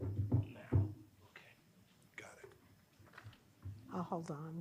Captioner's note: foot stool clattering